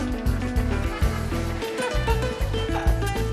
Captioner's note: laughing